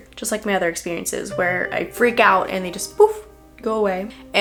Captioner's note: poof